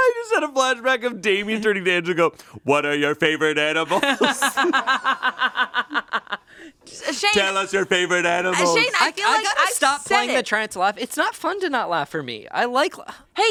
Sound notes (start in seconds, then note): 3.8 laughs